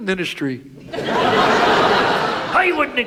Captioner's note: audience laughs